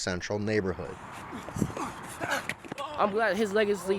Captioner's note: athletes grunting